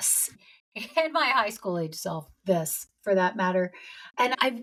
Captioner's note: laughs